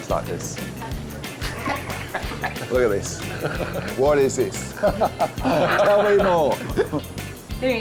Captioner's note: laughs